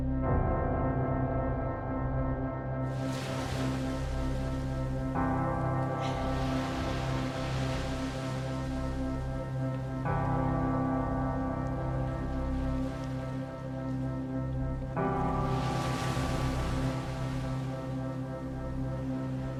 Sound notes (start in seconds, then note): 2.8 ocean waves crash